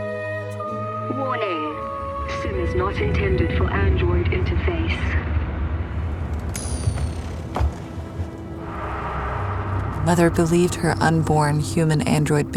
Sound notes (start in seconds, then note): 6.3 simulation pod powers down